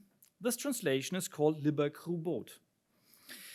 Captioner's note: speaks in foreign language